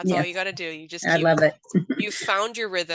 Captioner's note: laughs